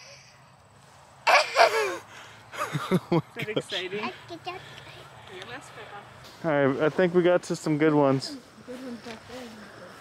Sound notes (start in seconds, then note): 1.2 laughs